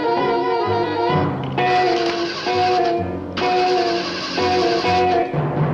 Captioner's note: car starter